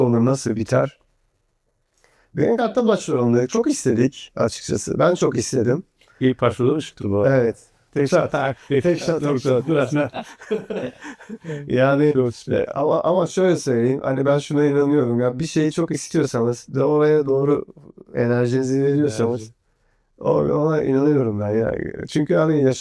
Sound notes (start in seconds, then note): 10.8 laughs